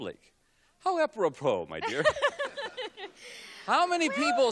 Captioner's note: laughs